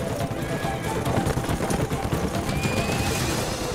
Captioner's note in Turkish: At kişniyor